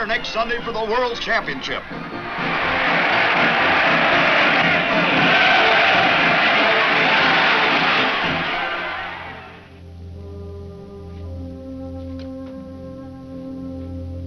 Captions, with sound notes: for the world championship. (crowd cheering) (tense music)